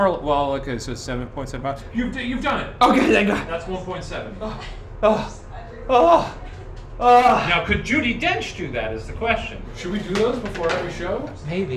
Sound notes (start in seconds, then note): 4.9 groaning